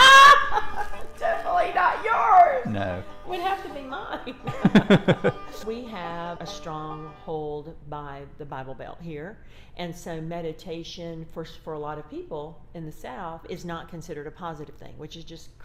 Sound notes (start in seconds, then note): 4.7 laugh